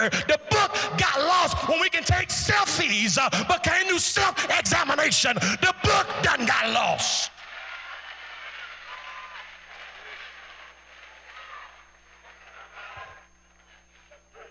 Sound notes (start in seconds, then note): 7.7 cheering